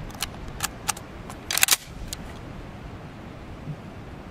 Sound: gun cocks

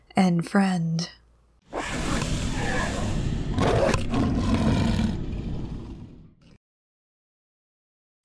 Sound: SFX: Slaghund

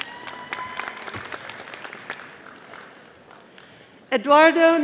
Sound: audience applauding

